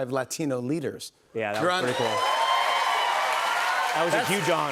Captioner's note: cheers and applause